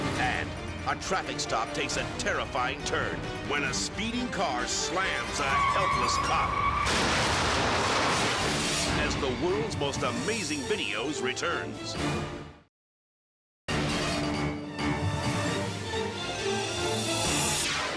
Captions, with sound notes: And a traffic stop takes a terrifying turn when a speeding car slams a helpless cop (car crashes loudly) as "The World's Most Amazing Videos" returns. (dynamic orchestral music)